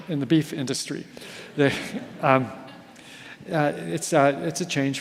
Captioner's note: audience laughs